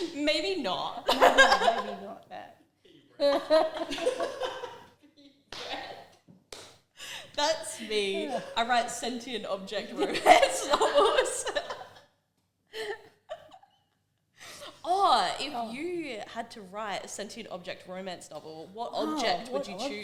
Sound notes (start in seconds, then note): 0.0 giggle; 0.0 laughter behind the scenes; 3.2 even more laughter; 11.2 laughter